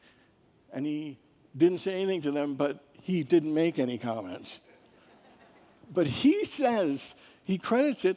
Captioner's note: congregants laugh